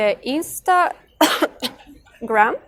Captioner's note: chuckles